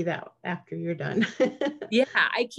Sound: laughs

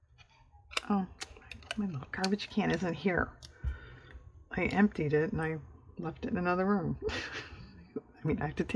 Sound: laughs

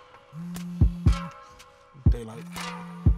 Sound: phone buzzing

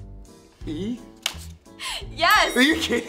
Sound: bell dings

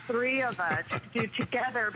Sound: laughter

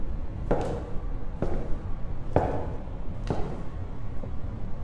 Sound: walking noises

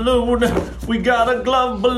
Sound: in a sing song voice

